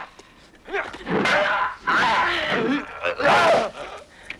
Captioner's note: raider shouts; swords clanging